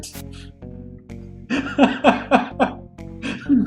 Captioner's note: laughing; laughs